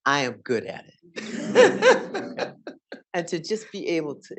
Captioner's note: audience laughing